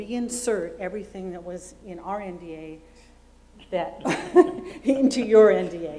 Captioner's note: laughs